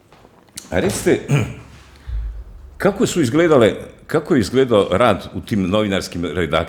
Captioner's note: coughs